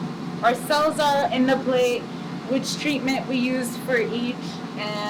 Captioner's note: loud machine whirring